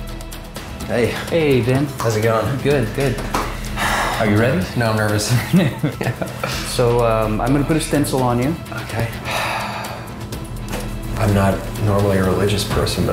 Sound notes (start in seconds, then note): 5.2 laughing; 9.1 sighing